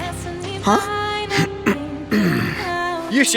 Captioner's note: clears throat